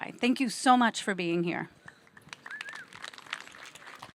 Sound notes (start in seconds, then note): 2.0 audience applauding